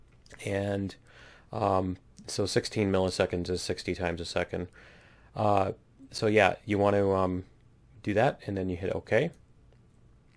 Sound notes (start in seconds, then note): none